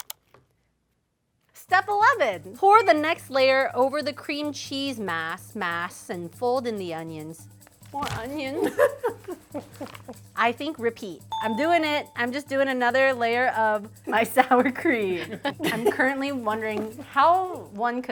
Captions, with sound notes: Step 11, pour the next layer over the cream cheese mass and fold in the onions. More onions? (friends laugh) I think repeat. I'm doing it! I'm just doing another layer of my sour cream. I'm currently wondering how one